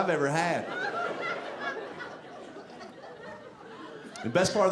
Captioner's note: audience laughing